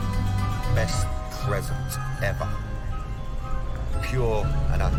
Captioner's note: echoing